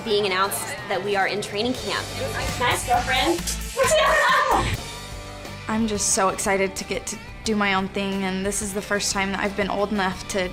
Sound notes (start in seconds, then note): 4.3 girls laughing